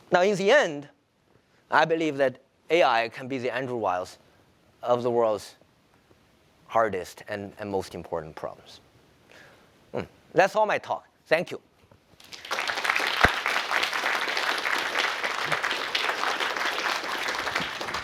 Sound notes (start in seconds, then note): 12.2 applause